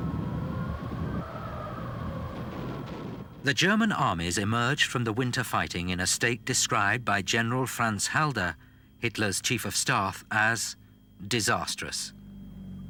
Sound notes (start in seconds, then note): 0.0 wind howling; 1.6 explosions booming; 12.6 engines rumbling